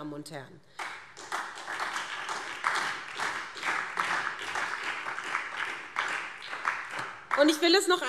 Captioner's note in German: Beifall SPD